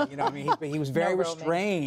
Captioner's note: laughter